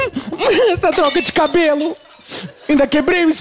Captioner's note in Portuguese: vidro quebrado